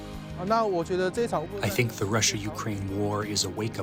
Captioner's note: through translator